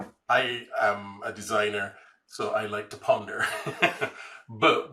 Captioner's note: laughs